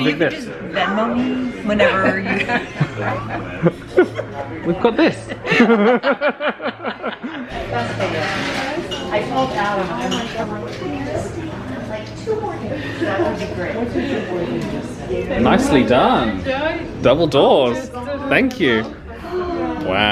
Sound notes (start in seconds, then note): 2.6 both laugh; 7.9 indistinct background chatter